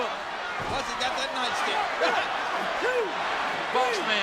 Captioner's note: laughs